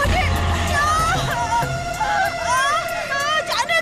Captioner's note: groans